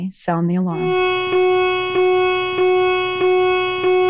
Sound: alarm blaring

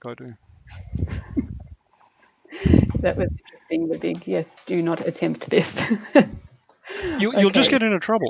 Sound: laughs

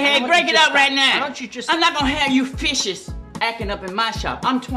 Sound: none

